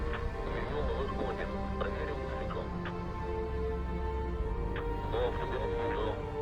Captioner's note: Bob speaking in foreign language; Dmitry speaking in foreign language